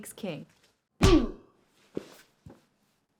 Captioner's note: body thudding; skin smacking